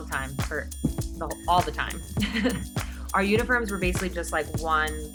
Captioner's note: laughs